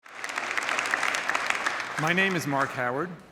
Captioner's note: crowd applauding